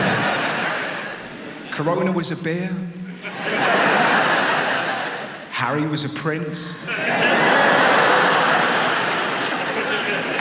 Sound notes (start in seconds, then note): 0.0 audience laughs; 3.1 audience laughs; 6.7 audience laughs